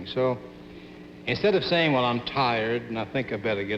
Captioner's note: none